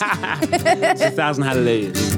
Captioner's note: laughing; guitar playing